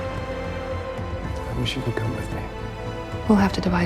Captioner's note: voiceover